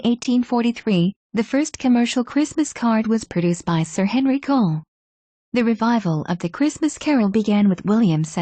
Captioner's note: German